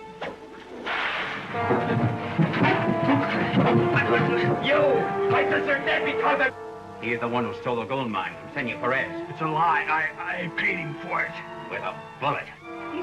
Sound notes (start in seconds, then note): 0.8 cracking whip; 3.0 clamouring